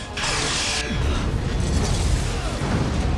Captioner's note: explosion